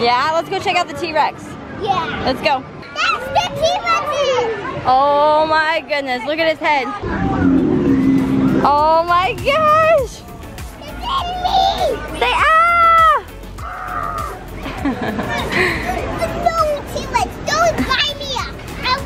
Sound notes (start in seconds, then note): 14.8 laughs